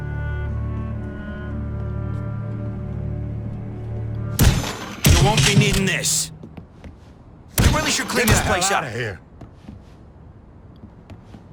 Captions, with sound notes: (fist thudding) - You won't be needing this. You really should clean this place up. - Get the hell outta here!